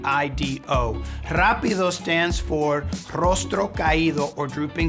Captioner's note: speaking in Spanish